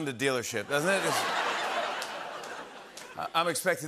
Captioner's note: laughter